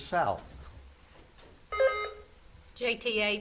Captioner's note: buzzer beeps